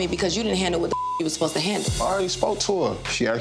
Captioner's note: beep